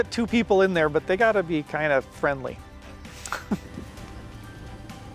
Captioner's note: laughs